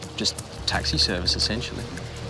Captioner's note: light aircraft engine humming